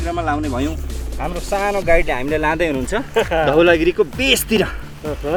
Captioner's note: laughter